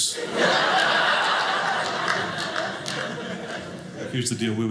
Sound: audience laughing

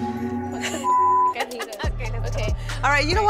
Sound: all laughing; beeping

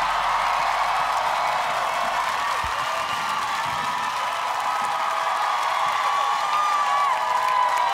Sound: crowd cheers

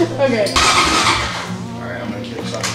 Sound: laughing; engine cranking

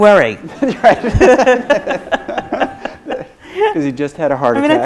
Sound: both laugh

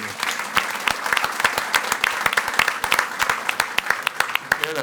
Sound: audience applauding

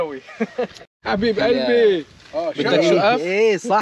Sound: speaking in Lebanese dialect

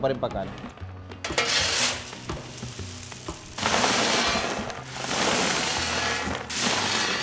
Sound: scoop scrapes; peanuts rattle

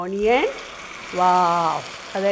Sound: oil cracks

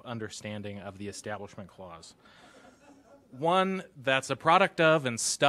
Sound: laughter

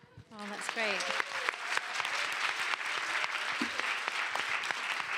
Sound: applause

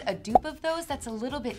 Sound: pop

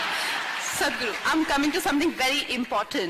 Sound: laughter

